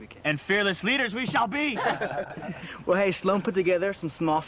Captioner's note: laughter